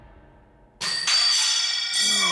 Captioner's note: clattering